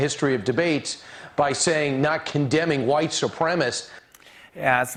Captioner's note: none